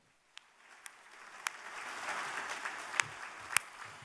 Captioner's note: applause